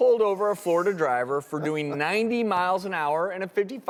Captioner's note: chuckles